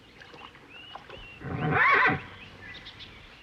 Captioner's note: neighing